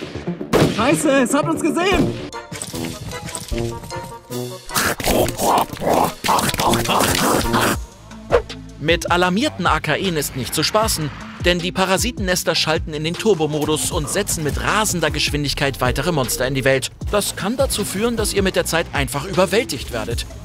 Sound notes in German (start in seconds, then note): 2.8 Freche Musik; 4.6 Monströse Geräusche